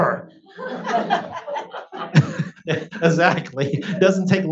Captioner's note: audience laughs